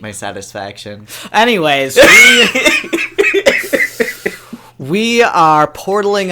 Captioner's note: laughs